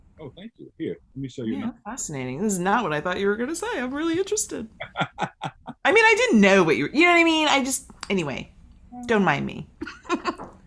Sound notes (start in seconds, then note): 4.8 laughing; 9.8 laughing